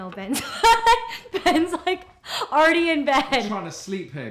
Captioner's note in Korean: 웃음